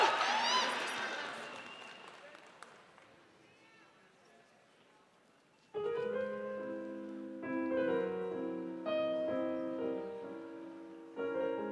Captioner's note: applause